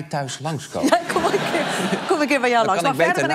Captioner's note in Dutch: gelach